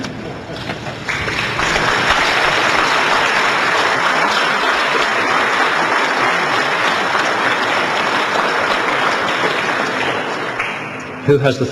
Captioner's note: laughter and applause